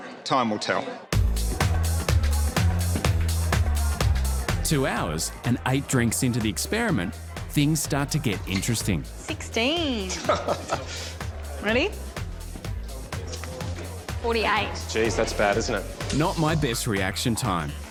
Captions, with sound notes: Time will tell. 2 hours and 8 drinks into the experiment things start to get interesting. 16. (laughs) Ready? 48. Jeez, that's bad, isn't it? Not my best reaction time.